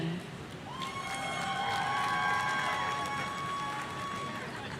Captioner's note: audience cheering